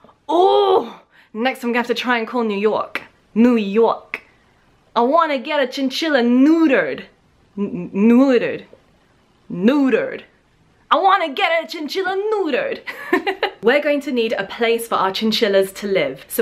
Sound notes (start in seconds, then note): 4.6 attempting Brooklyn accent; 12.9 laughing